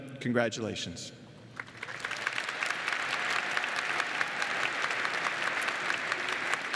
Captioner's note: applause